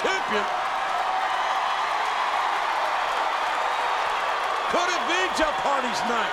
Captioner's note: audience cheering and clapping